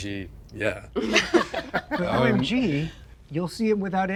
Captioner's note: people laughing